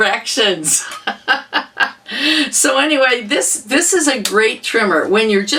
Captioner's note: laughter